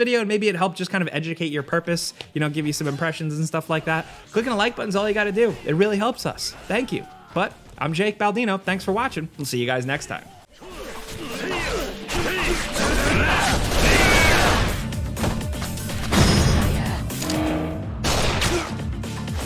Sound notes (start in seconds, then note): 12.0 sword fighting; 14.7 upbeat music; 18.0 gun firing; 18.1 sword and gun fighting; 19.2 upbeat music